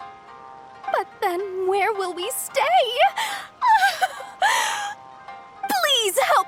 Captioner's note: crying